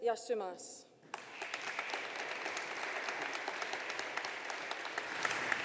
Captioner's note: audience applauding